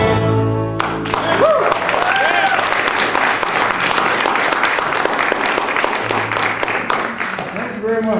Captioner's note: applause